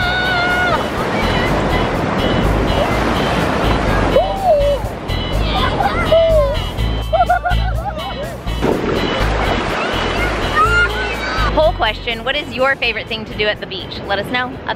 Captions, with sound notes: (screams) (upbeat music) - Poll question, what is your favorite thing to do at the beach?